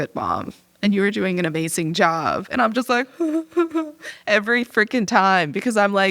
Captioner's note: sobbing